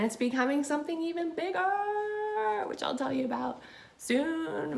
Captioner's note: none